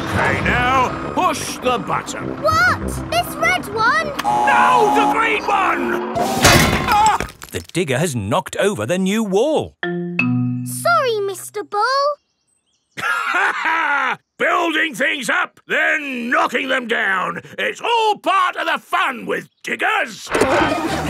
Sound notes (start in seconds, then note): 13.0 laughs; 20.4 peppa and george laughing